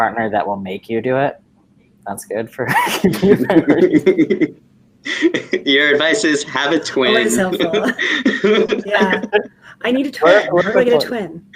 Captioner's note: laughing